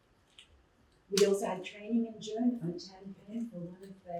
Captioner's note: muffled voice